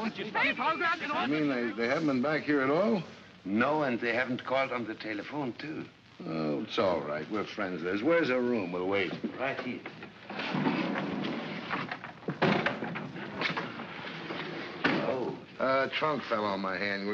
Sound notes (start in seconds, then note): 0.0 indistinct chatter & arguing; 10.2 door slides open; 12.3 door bangs shut